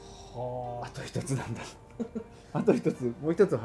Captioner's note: laughs